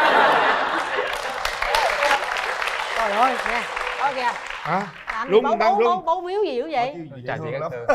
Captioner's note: applause